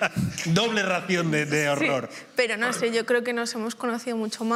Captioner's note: laughs